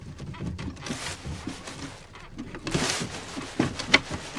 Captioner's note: rattling